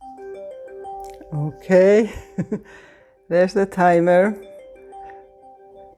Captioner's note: chime